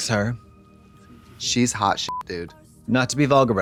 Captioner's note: beep